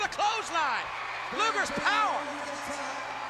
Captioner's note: crowd cheers